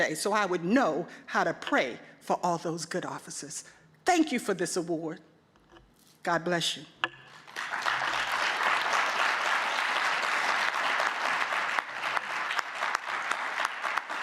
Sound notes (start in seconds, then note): 7.3 audience clapping; 7.3 clapping